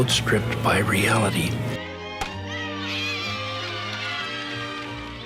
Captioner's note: kids yelling and chatting